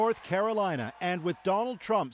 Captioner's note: cheers and applause